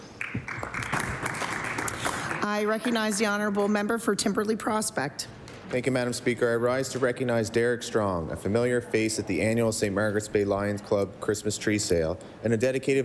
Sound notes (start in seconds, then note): 3.8 applause